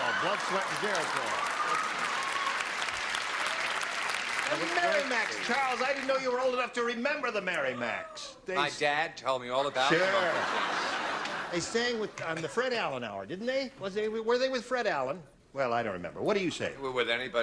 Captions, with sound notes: GERITOL. BLOOD, SWEAT, AND GERITOL. [CLAPPING] THE MARY MACS, CHARLES. I DIDN'T KNOW YOU WERE OLD ENOUGH TO REMEMBER THE MARY MACS. MY DAD TOLD ME ALL ABOUT THEM. SURE. [LAUGHTER] THEY SANG ON THE FRED ALLEN HOUR, DIDN'T THEY? WERE THEY WITH FRED ALLEN? WELL, I DON'T REMEMBER. WHAT DO YOU SAY?